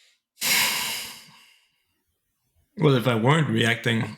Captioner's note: exhaling